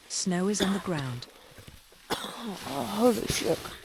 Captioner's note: coughing